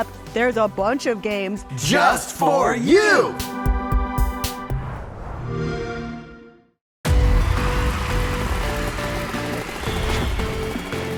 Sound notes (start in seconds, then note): 4.8 xbox sound; 7.1 exciting electronic music